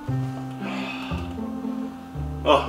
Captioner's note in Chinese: 舒暢的呻吟